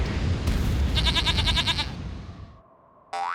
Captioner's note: bleats